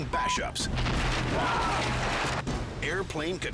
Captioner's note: beep; screams